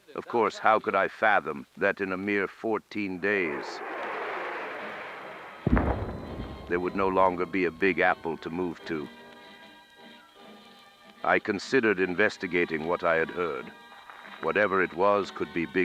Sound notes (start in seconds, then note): 3.4 distant roar; 5.6 distant boom